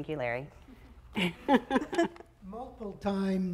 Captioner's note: women laughing